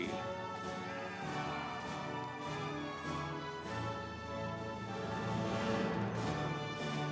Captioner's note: instrumental music; audience cheering